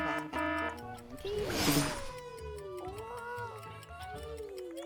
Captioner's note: alarm blaring; clock ticking